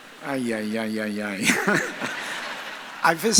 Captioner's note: audience laughs; laughs